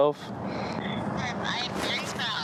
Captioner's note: on phone